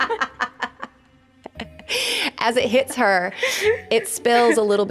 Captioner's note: laughing